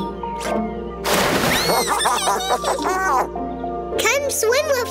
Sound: splash; giggling

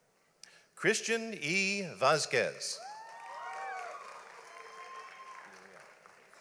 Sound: audience applauds

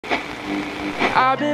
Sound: radio buzzing

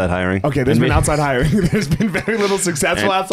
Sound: laughing

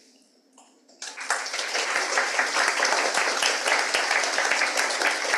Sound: audience applauds

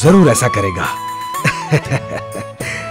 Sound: laughs

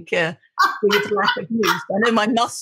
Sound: laughing

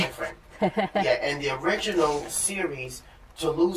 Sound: laughter

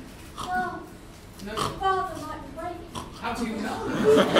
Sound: snoring

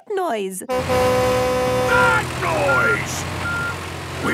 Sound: tractor noise; screaming

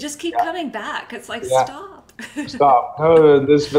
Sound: chuckles

